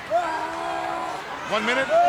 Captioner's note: wrestler screaming